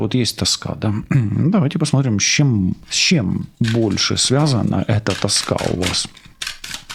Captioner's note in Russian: откашливается